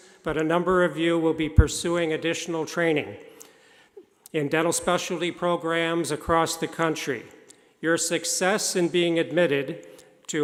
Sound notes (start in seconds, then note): none